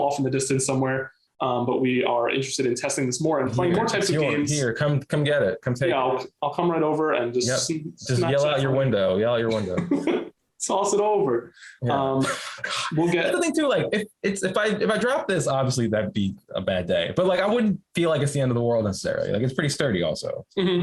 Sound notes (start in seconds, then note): 9.0 chuckles